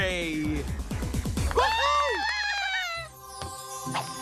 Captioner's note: cheering